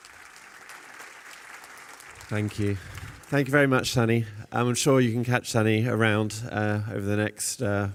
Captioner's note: applause